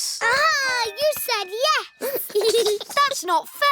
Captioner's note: giggles